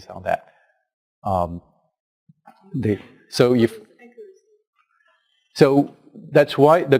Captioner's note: pause